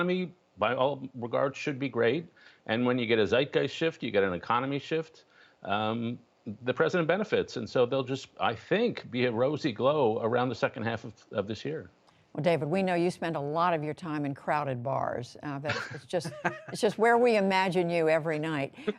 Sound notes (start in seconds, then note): 15.6 laughter